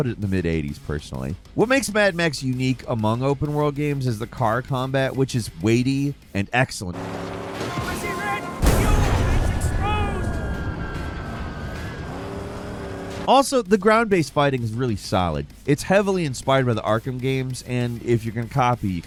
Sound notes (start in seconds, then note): 3.7 dramatic music; 3.7 explosions boom